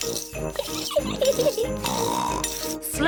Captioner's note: giggles and snorts